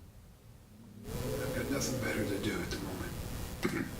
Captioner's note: chokes